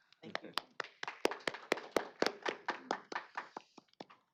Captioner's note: applause